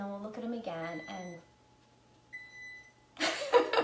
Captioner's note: beeping; laughing